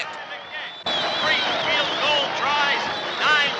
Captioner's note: crowd cheering